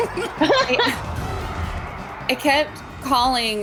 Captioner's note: laughs